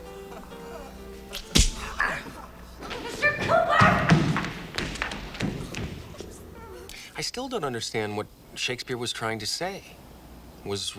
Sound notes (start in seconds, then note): 0.0 lips smooching; 1.2 hand slapping; 5.0 feet shuffling